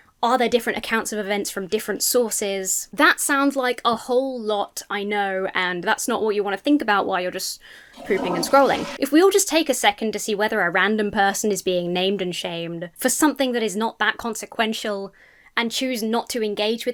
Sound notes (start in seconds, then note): 7.9 toilet flushes